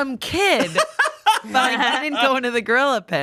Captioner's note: laughs